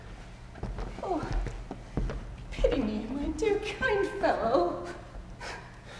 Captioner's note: cries